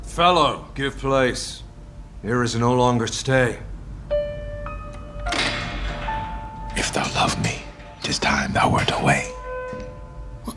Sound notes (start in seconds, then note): 4.7 cell unlocking; 6.8 whispering